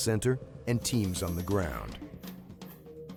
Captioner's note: voiceover